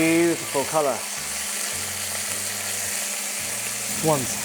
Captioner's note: sizzling sound